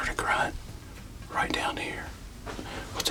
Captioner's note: whispering